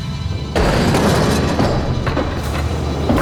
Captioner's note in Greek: Πόρτα αναγκάζοντας τον τόνο